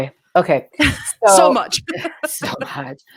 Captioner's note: laughs